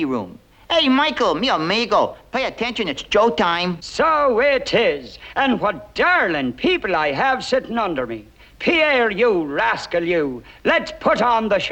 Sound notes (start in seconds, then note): 3.3 Irish accent